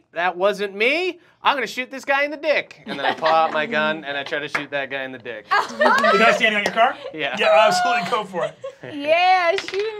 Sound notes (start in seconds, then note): 5.5 laughing